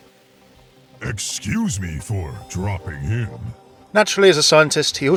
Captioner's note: voiceover